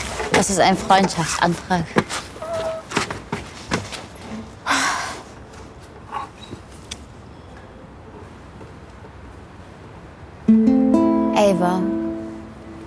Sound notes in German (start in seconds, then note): 4.6 Seufzen